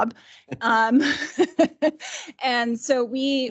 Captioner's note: laughing